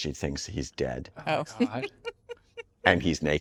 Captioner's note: laughing